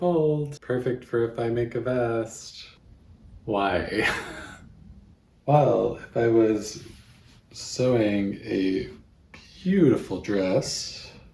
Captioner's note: laughs in defeat